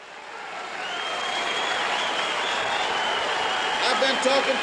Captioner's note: applause